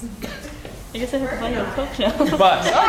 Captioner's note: laugh